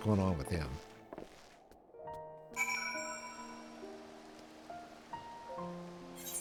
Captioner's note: bell rings